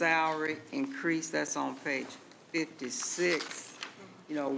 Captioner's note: pages rustling